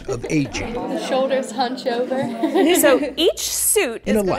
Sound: giggles

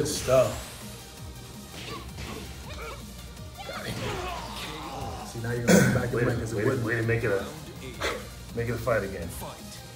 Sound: cough

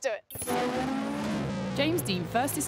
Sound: tires screeching

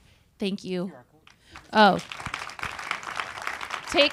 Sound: audience applauding

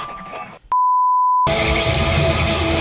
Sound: commercial beep; rock music begins

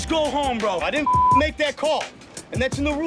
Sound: beep

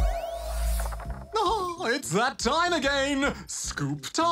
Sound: chuckles

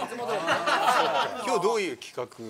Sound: laughs; laughter

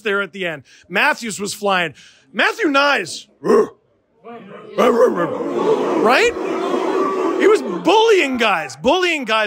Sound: and the crowd woofs

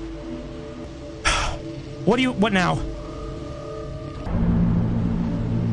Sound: sigh

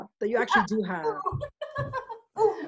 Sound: laughing

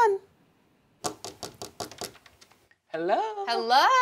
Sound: tapping on door

